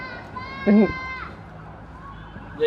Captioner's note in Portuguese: murmura